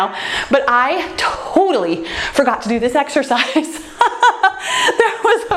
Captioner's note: laughs